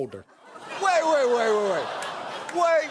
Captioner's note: audience laughs